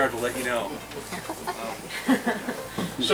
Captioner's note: laughing